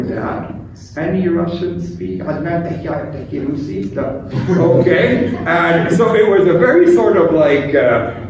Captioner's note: speaking arabic